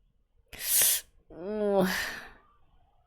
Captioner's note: sharp inhale